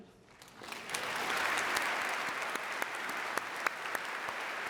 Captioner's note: audience applauding